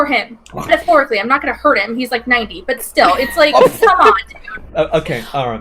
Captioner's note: laughs